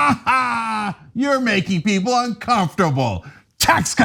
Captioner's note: laugh